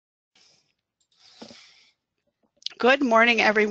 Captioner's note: silence